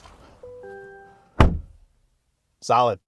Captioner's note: door slams